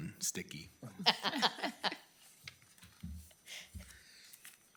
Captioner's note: laughing